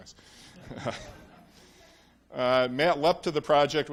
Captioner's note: audience laughs